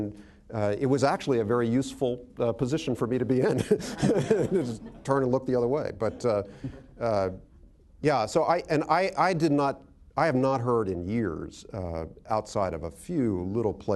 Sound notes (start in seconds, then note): 3.4 laughter; 5.0 chuckles